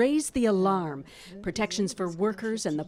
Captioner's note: speaking French